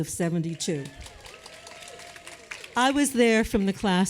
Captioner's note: applause